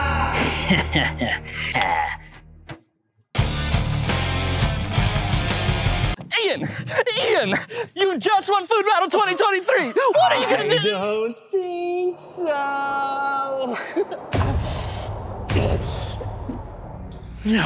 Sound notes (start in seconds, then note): 0.4 laughs; 3.3 intense music; 13.6 giggles; 13.6 wind whooshing; 14.4 dramatic music